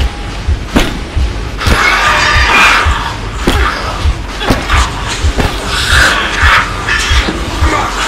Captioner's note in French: Coups. La créature cesse de crier